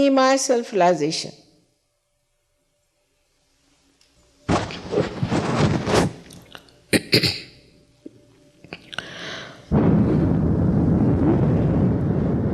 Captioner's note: mother blows in the microphone seven times